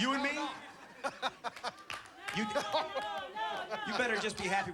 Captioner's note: laughing